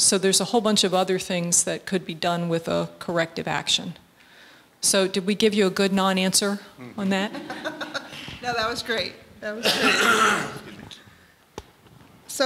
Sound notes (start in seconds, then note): 7.2 laughter